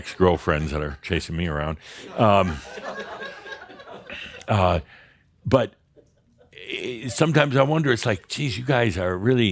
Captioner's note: laughter; more chuckles